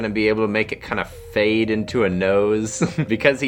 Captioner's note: chuckles